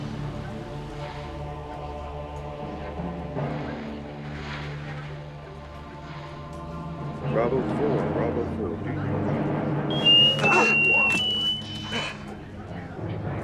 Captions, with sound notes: Bravo four. Bravo four. [Whistle]